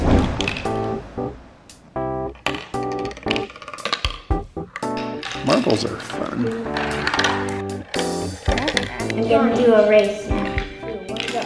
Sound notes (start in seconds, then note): 0.1 screen whooshes; 0.9 playful music; 2.3 marbles tap; 7.0 marbles tap; 7.0 playful music; 11.1 marbles tap; 11.2 playful music